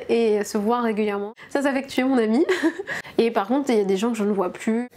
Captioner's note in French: rires